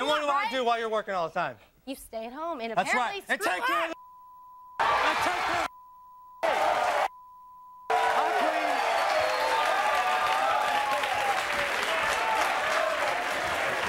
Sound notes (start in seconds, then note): 3.7 beep; 6.4 beep; 6.4 audience cheering